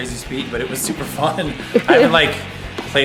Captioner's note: laughs